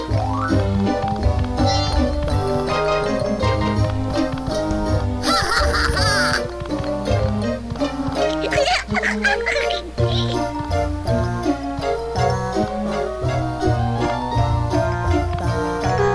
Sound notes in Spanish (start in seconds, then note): 5.2 risas; 5.2 lloros